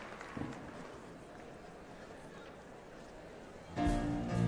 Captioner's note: applause